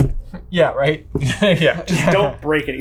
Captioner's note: laughing